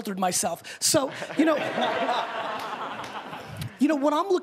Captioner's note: laughing